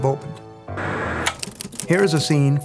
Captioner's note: static crackling